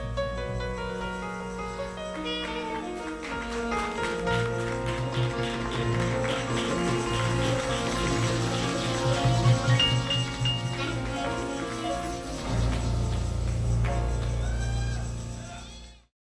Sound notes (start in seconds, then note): 2.0 clapping